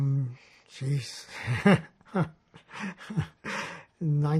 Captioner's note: laughing